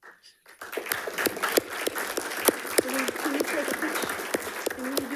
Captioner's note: attendees clapping